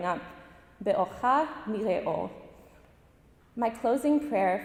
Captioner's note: speaking in Hebrew language